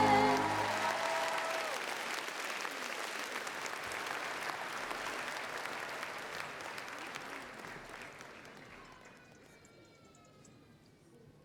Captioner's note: applause